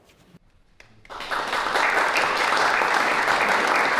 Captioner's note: applause